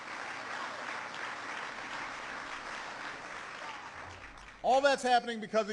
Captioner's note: applause